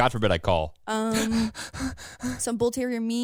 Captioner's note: panting